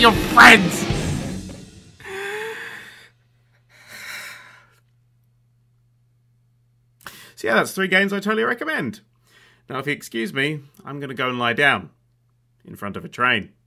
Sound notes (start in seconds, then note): 0.0 cymbal smash; 2.0 trembling breath in and out